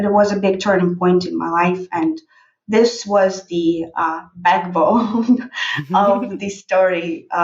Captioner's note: laughs